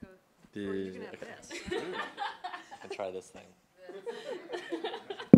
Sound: chuckles

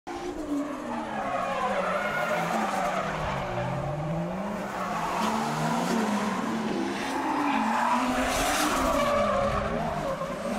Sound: car sound

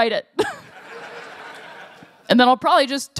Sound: laughter

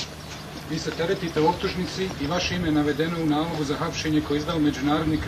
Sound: man speaking foreign language

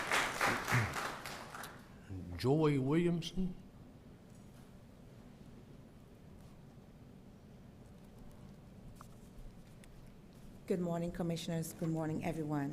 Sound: applause

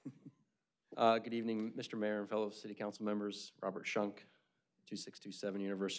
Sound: laughter

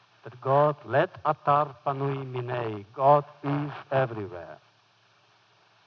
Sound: foreign language

